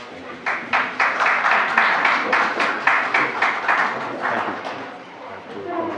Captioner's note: applause